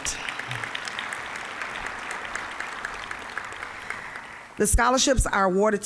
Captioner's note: applause